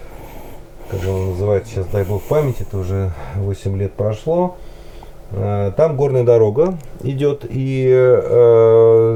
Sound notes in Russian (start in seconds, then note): 0.8 фыркает